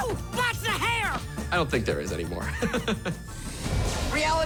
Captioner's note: laughs